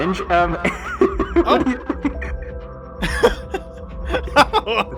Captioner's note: laughs